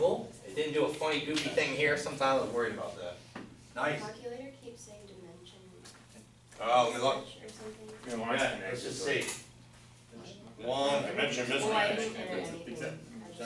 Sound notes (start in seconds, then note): 3.8 voiceover